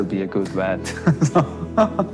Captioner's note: laughs